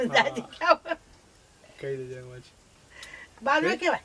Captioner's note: laughs